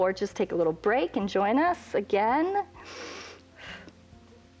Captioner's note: inhales